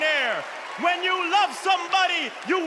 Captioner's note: cheers and applause